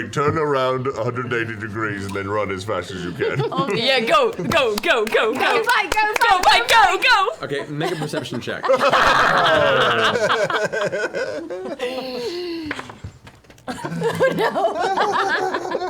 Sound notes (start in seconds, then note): 4.0 clapping; 11.7 groans; 13.5 laughs